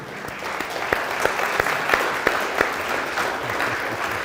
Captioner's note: audience applauds